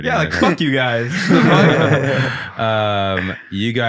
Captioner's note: group laughing